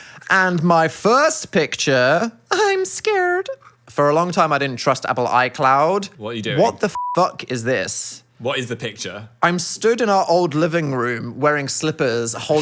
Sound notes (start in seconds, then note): 6.9 beep